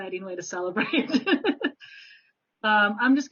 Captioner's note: laughs